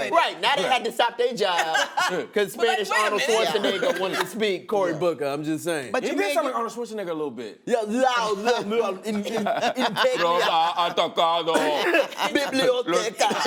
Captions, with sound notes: Right. Now they have to stop their job 'cause Spanish Arnold Schwarzenegger wanted to speak. -Cory Booker, I'm just saying. -He did sound like Arnold Schwarzenegger a little bit. (both slurring Spanish) -"Biblioteca." -(laughter)